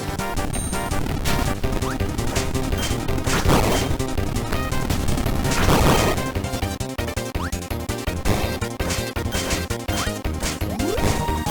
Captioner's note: sword Spin